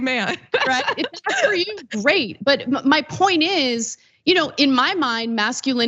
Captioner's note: laugh